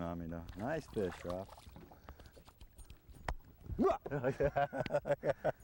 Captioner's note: laughter